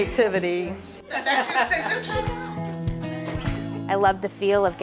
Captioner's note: group laughing